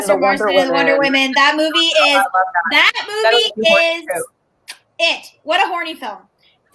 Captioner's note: kisses